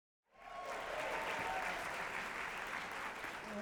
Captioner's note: applause